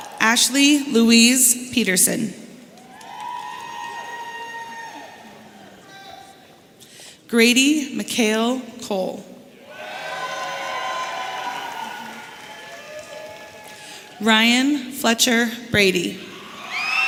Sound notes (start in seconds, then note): 2.7 audience cheering; 9.6 audience cheering